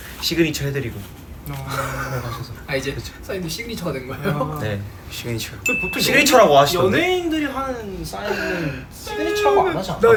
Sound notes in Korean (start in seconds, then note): 1.3 헛웃음